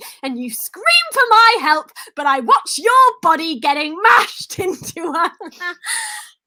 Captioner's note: laugh